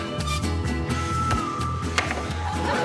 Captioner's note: Alex grunts